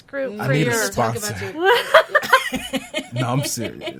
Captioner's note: laughs